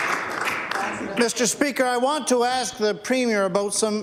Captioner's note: applause